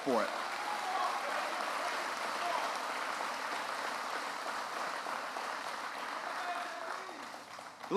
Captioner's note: applause